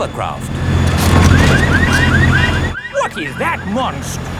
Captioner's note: car alarms blaring